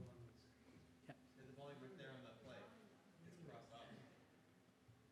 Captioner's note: speaking faintly off mic